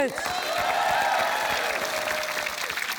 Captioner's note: cheering, applause